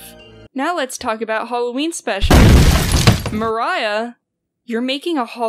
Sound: crash

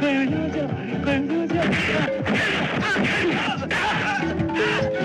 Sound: fighting Sound

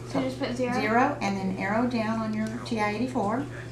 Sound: calculator sounds

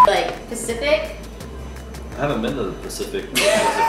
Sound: beeping

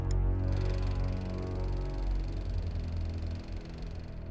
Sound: film reel clicking

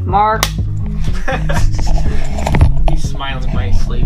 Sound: laughing

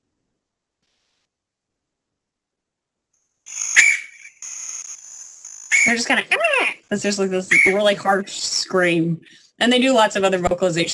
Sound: sound effect

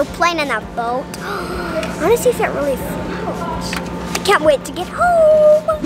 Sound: gasps

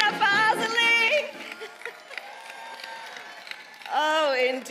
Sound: applause

